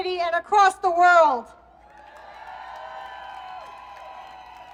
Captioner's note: applause